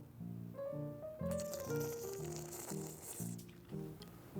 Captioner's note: weird slurrping sound